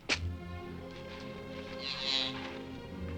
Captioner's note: bull calf moos